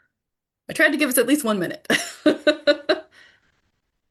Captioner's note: laughs